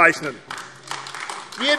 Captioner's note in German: Beifall AfD